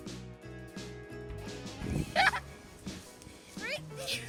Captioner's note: laughter